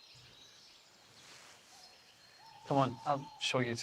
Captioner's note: birds chirping